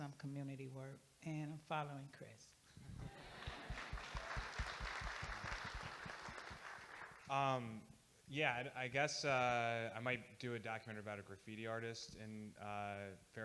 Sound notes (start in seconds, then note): 3.0 audience Applauding